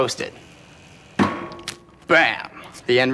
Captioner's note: toaster boing